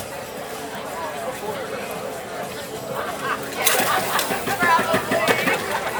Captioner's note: chattering